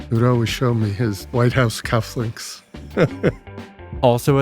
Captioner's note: laughs